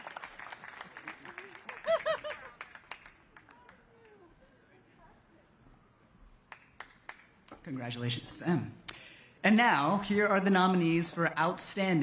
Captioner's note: applause